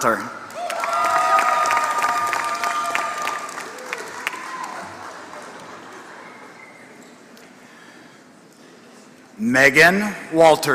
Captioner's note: applause